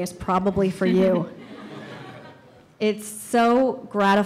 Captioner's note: audience laughs